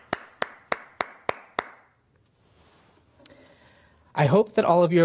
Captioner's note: clapping